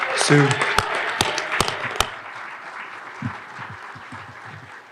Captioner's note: audience applauding